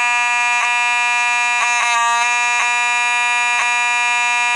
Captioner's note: horn wavers due to sliding over